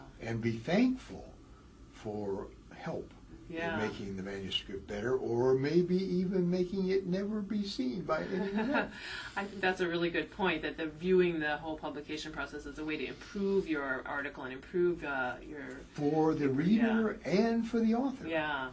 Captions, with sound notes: Yeah. And be thankful for help. Yeah. Making the manuscript better or maybe even making it never be seen by any other. [laugh] I think that's a really good point that the viewing the whole publication process is a way to improve your article and improve your. For the reader.